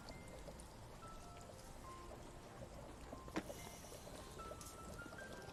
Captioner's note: liquid bubbling